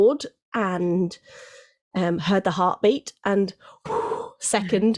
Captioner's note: exhales